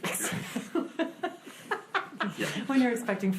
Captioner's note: board laughs